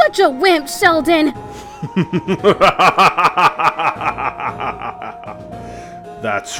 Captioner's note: evil laugh